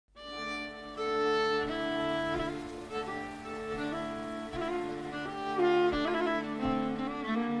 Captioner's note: stream running